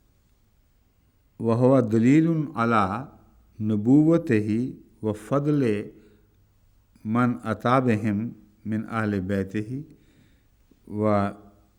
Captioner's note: Arabic